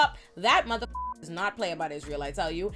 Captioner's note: beep